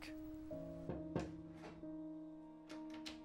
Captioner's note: knock on door